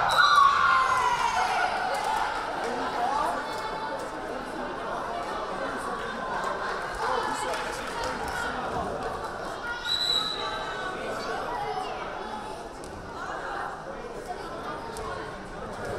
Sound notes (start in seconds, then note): 0.0 crowd cheering; 0.1 whistle blaring; 9.9 whistle blaring